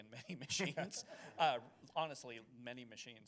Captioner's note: chuckles